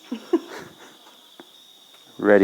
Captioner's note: laughter